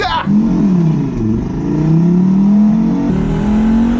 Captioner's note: engine sounds